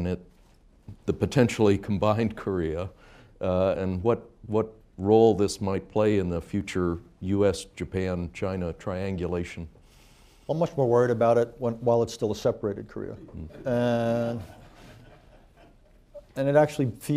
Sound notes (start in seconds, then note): 13.3 laughter